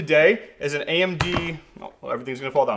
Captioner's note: boxes thudding